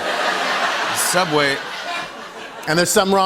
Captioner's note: laughter